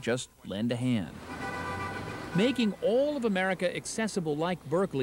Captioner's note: traffic